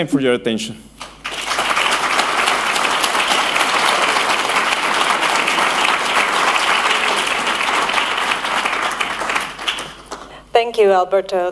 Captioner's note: applause